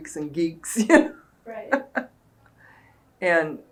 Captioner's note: laughs